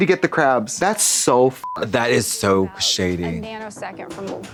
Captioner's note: beep